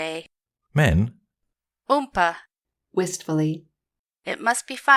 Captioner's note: wistfully